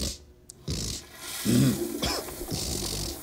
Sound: snorting; toilet flushes; clearing throat

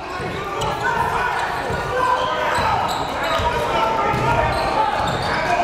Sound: cheering and yelling

